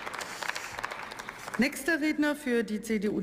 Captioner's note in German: Beifall